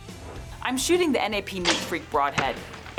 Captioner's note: bow thumping